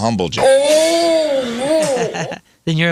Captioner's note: groaning